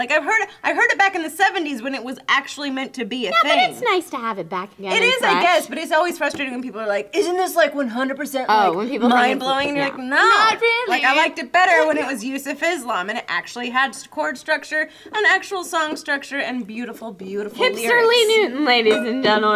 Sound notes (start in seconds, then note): none